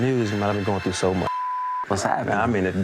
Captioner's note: beep